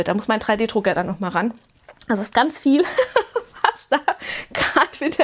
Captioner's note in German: gelächter